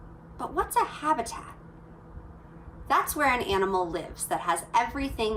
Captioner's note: none